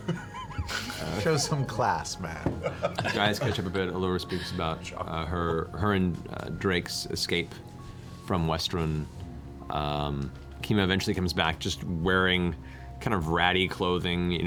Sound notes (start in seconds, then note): 2.6 laughs